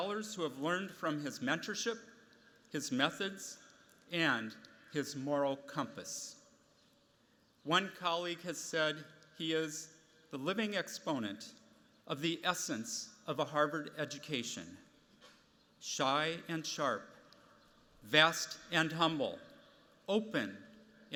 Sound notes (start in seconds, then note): none